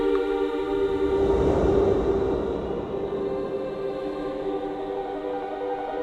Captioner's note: rapid swooshing; tense music